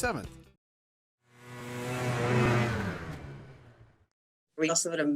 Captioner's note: engine roaring